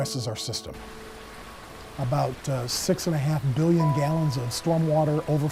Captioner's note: water splashing